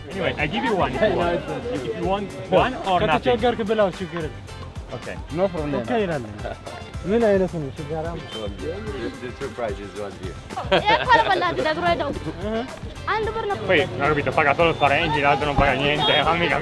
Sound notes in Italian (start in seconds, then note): 0.2 Inglese; 3.3 parla nella propria lingua